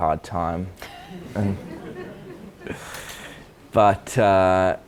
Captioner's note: audience laughs